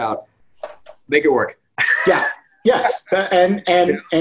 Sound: laughs

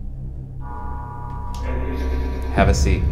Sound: ghost noises

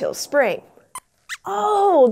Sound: squeaks squeaks

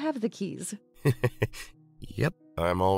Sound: laughs

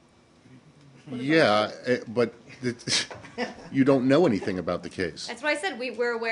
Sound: laughter

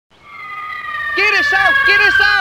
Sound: falling object whistling

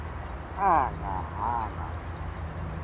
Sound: sad noises

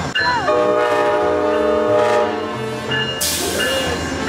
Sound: train honks

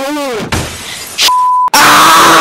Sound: glass door breaks

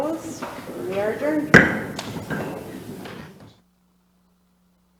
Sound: gavel bangs

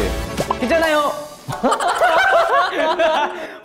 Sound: A burst of laughter🤣🤣

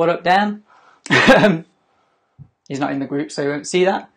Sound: laughing

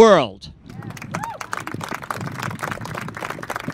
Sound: crowd clapping

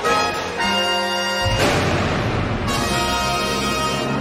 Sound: gunfire

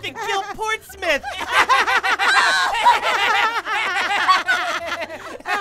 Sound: laughing

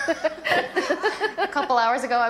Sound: laughter

